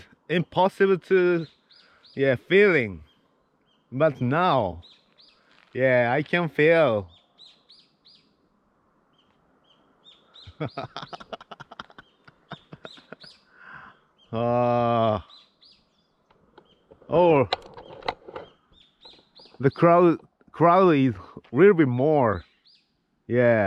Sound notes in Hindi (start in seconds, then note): 10.4 हँसी